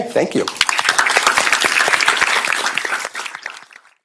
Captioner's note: applause